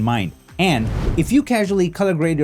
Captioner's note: screen whooshing